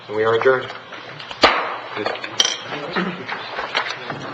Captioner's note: gavel striking